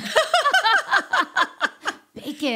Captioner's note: laughing